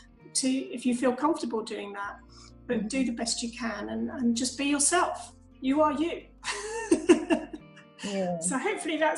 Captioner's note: laughs